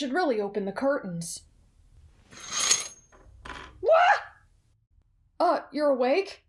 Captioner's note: krrsh